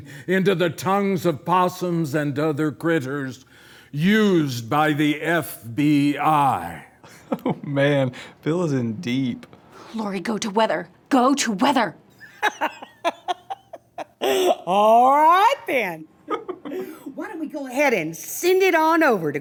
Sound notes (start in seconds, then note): 12.2 laughing heartily; 16.3 director giggles